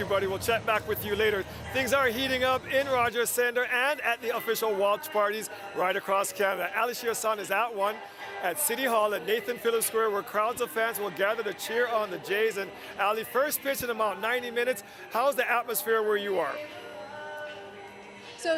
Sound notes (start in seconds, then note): none